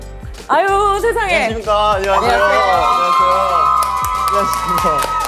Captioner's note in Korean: 환호성과 함께 등장